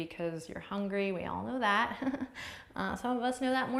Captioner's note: chuckles